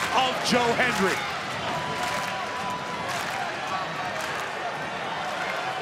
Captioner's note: crowd clap and cheer